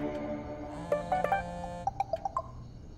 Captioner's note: Message tone